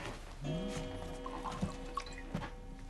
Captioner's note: clock chiming